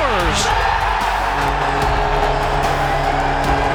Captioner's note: crowd cheers